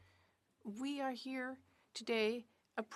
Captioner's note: speaking French